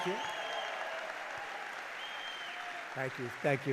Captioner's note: applause